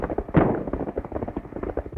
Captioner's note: gunshot